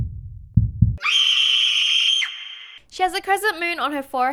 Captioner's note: scream